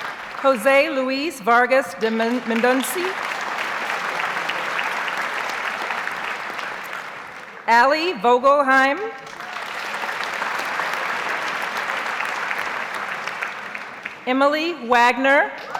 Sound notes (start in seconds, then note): 1.8 audience applauds; 9.2 audience applauds; 15.6 audience cheers and applauds